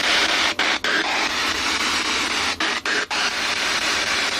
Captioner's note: static crackling